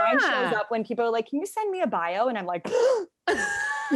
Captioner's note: gasp